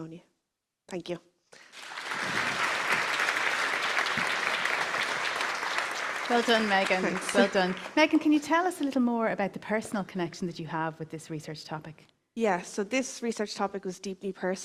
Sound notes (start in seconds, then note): 3.8 applause